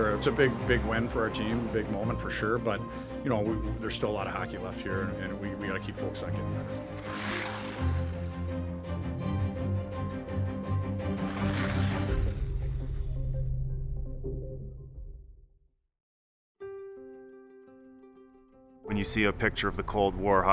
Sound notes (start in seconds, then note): 7.1 ice scrapes; 7.1 upbeat music; 11.1 ice scrapes; 16.6 gentle music